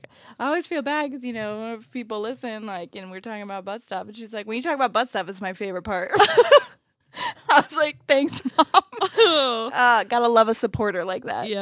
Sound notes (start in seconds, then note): 8.3 laughs